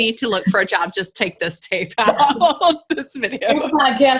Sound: laughs

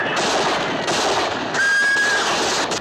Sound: horse whinnies

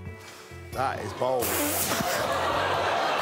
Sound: whispers

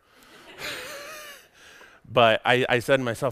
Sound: audience laughs

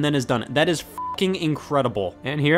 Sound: beep

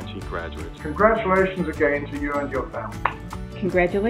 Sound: claps

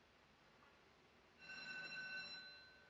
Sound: doorbell rings

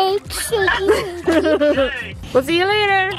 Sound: laughing

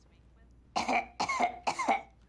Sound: fakes coughing

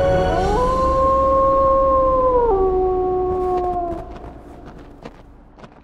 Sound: coyote howling

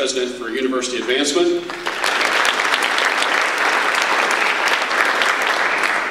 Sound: audience applause

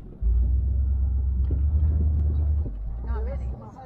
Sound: engine roaring

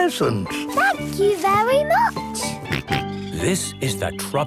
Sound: George snorts

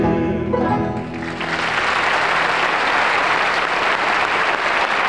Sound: audience applauds

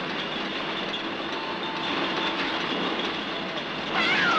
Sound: train whistle blowing

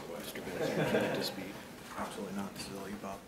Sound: laughing

